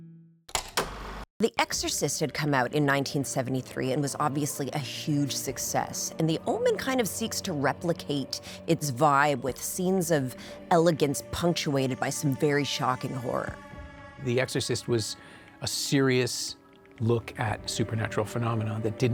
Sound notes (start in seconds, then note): 0.6 film reel clacking